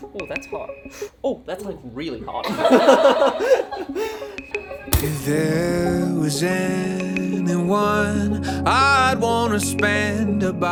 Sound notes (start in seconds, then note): 2.4 all laughing; 4.7 oven door closing